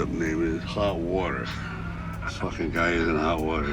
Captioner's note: Tyson giggles